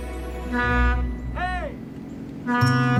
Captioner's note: horn honks